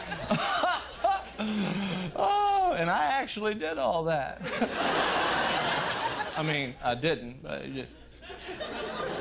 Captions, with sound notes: And I actually did all that. [laughs] I mean, I didn't but I did.